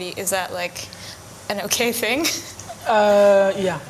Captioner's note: laughs